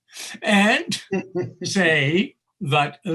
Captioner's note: laughing